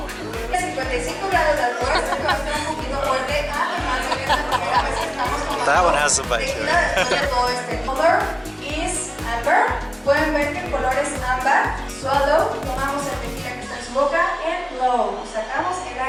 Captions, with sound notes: [Laughter] That one has some bite to it.